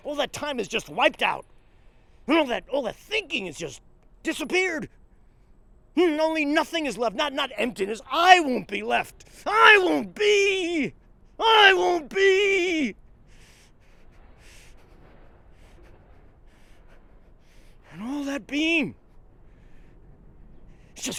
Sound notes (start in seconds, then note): 13.3 panting